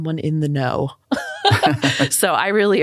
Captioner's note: laughing